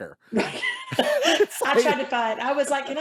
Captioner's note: laughing